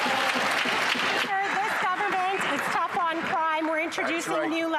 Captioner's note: some Applause